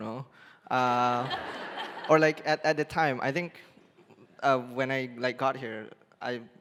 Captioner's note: laughing